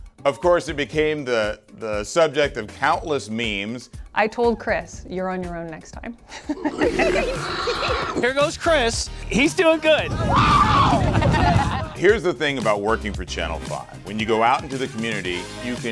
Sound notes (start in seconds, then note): 6.3 chuckles; 6.4 giggling; 6.4 Megatron growling; 10.2 screaming; 10.9 woman laughing